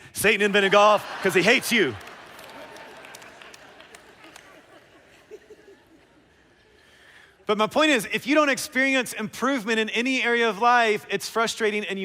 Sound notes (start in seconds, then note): 2.5 laughter